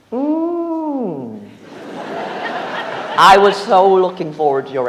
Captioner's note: audience laughs